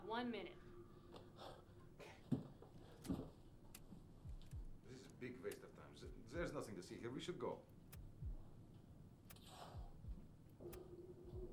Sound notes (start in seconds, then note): 9.2 clicking